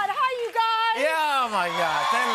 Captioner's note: cheers and applause